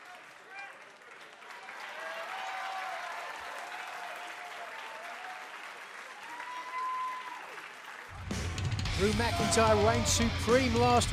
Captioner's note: crowd cheering